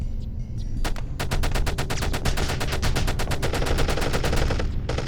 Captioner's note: peppering gunfire